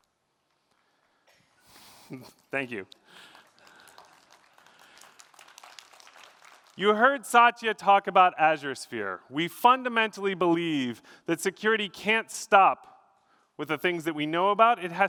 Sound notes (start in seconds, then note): 3.0 applause